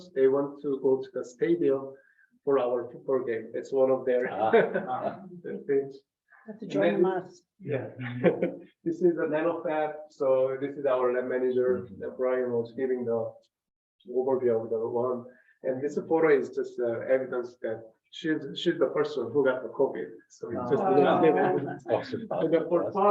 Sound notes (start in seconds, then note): 4.2 members laugh; 20.5 members laugh